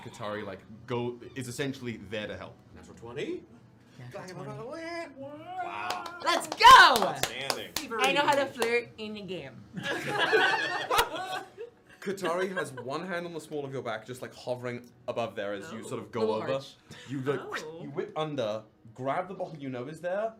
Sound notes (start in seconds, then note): 5.8 clapping; 9.7 laughter